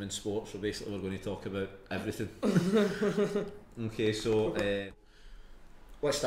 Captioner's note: group laughs